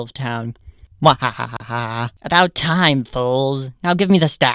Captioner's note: laughs in American